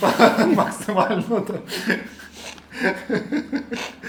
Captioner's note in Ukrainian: сміх